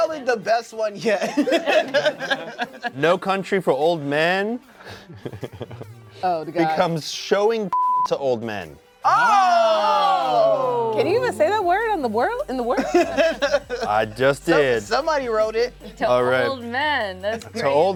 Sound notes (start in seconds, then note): 1.2 laughs; 4.8 laughs; 7.7 beep; 9.0 cast exclaims; 12.7 laughs